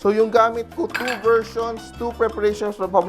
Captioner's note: clink